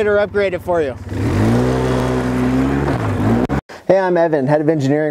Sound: engine

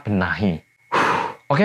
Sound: breathes heavily

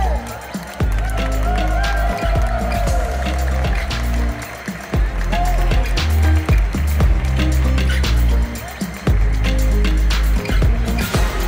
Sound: applause; ♫ Midtempo guitar music ♫

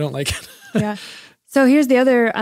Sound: laughs

